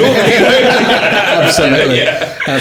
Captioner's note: laughing